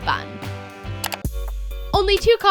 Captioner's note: clicking